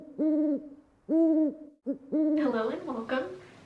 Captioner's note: owl Hooting